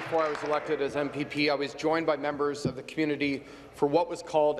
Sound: applause

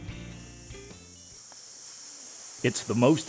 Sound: oxygen hissing

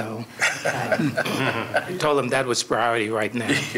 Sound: laughter

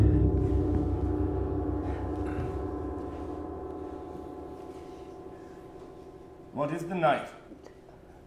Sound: bell rings

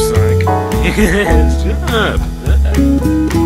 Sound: laughs

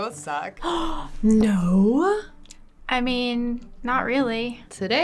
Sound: gasping

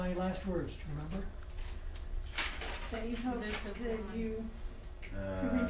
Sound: students talking

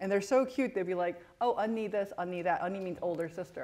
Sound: non-english speech

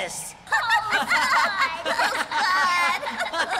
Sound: laughter

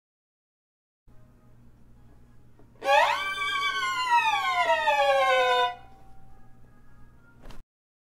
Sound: scary sounds

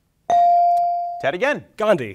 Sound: bell ringing

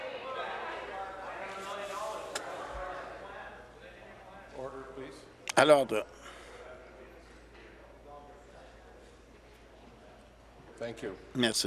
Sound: conversation din

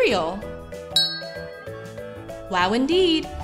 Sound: ding

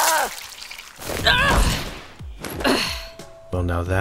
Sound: grunts

